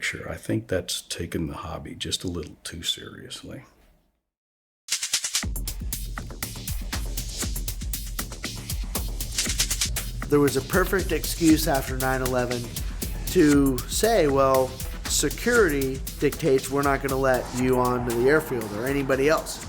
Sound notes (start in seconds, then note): 4.8 rhythmic clicking; 5.9 energetic music; 8.7 rhythmic clicking